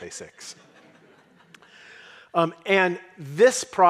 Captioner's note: audience laughing